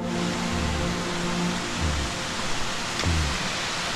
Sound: water rushing

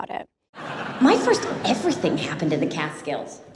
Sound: crowd laughs

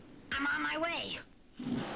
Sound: engine rumbles

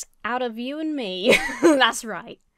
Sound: laughs

